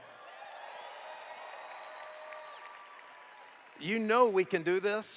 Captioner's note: cheers